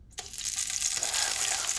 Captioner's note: oil sizzling